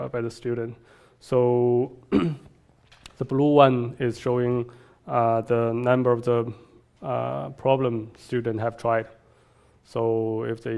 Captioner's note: cough